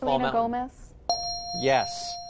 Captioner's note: bell dings